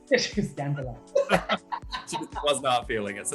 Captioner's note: laughter